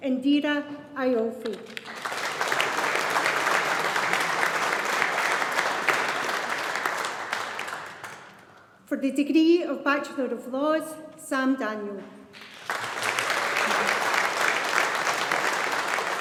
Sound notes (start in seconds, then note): 1.7 audience applauding; 12.3 audience applauding